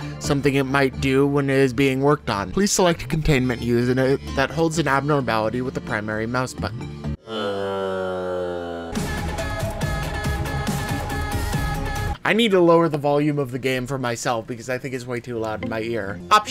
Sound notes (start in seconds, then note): 7.5 buzzes; 8.9 electronic music